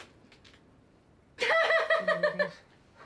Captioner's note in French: rigole